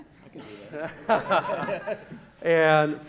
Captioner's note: laughing